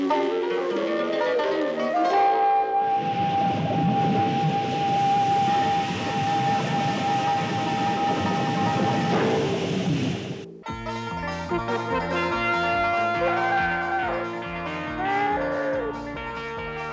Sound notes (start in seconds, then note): 2.8 geyser rumbling; 10.4 bright banjo music; 11.0 dinosaur roaring